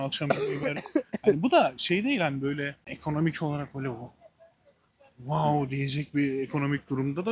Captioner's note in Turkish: kahkaha